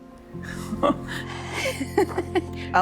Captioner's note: laughing